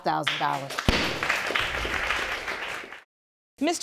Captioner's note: audience applauding